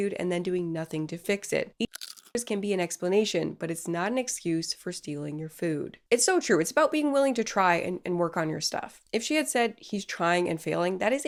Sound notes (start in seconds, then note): 1.8 food crunches